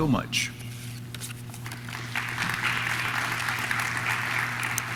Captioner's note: audience claps